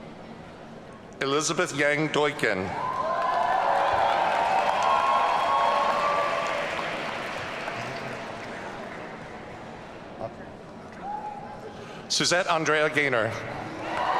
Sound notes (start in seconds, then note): 2.7 audience cheering